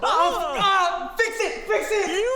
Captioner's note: shouting